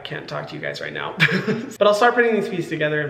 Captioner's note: Hyram giggling